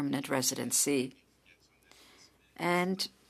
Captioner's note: speaking French